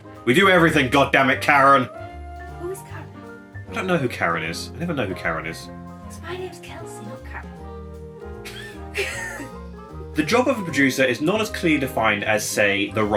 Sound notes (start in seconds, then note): 8.4 laughing